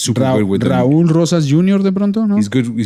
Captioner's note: speaking spanish